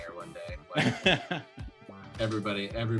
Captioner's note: laughs